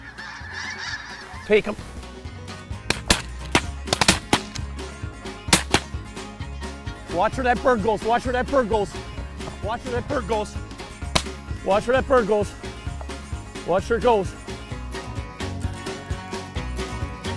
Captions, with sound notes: Take 'em. (gunshots echoing) Watch where that bird goes, watch where that bird goes. Watch where that bird goes. Watch where that bird goes. Watch where it goes.